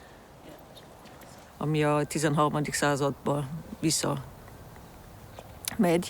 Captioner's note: speaking in foreign language